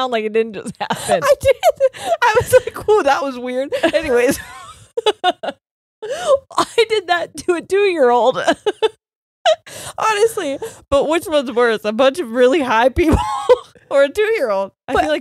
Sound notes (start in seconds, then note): 3.7 both laughing; 9.2 laughing